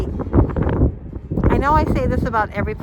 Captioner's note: wind flapping